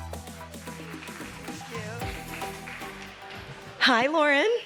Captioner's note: audience clapping